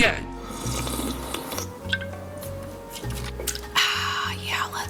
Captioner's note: slurping